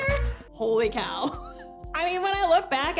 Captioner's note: laughs